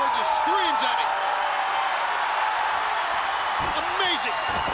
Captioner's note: crowd cheering